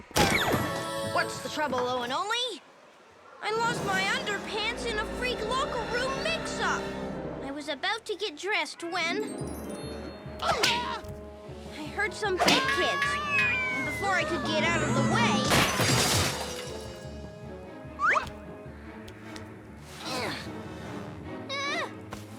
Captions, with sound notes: - What's the trouble Owen Only? - I lost my underpants in a freak locker room mix up. I was about to get dressed when, (kids yelping) I heard some big kids and before I could get out of the way... (big kid crashes) (Owen whimpers)